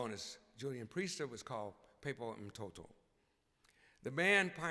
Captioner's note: speaking in swahili